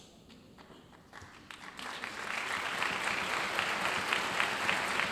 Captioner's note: audience applauding